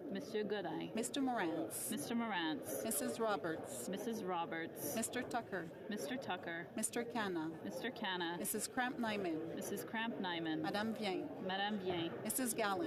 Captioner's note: calling of recorded vote